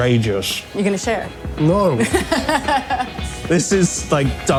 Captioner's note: laughs